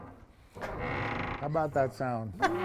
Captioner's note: door squeaking